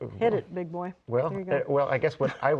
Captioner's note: laughing